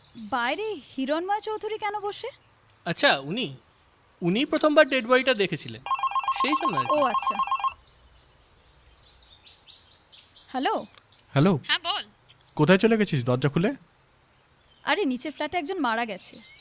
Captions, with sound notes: Met Hiranmoy Choudhury just outside! Yes him He called the police. - Oh okay [Phone rings] Hello? [Over the Phone] Hey! - Where are you? Your door's open. A man died downstairs.